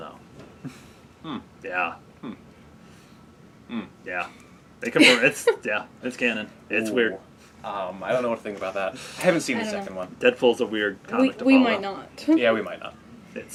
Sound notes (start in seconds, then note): 5.0 laughing